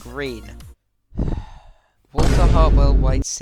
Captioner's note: sigh